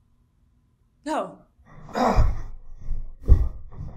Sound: he grunts

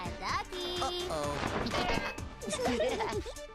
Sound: laughing; chuckling

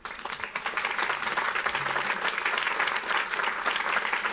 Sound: audience applauds

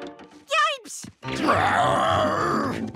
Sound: growling

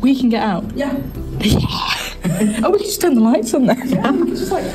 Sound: giggles

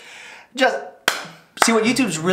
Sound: double-claps for PewDiePie

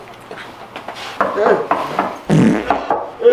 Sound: knock Knock Knock

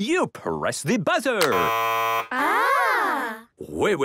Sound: buzzing

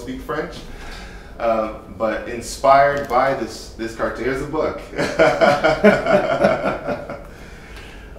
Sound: both laughing

